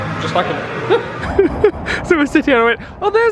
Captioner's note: chuckling